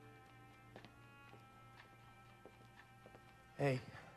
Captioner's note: footsteps approach